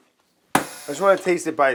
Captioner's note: slaps counter